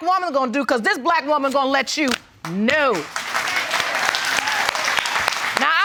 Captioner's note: audience applauds